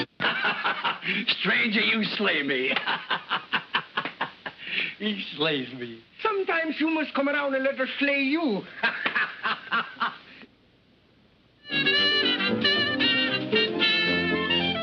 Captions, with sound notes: [LAUGHS] Stranger, you slay me. [LAUGHS] He slays me. Sometimes, you must come around and let her slay you. [LAUGHS] [UPBEAT MUSIC]